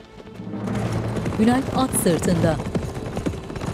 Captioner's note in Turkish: At nalı sesleri